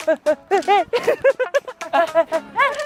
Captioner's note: laughter erupts